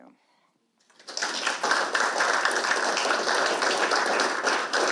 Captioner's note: audience applauds